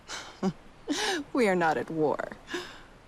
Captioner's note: laughs